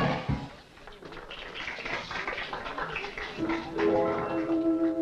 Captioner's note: lively big band music; group applauds; magical music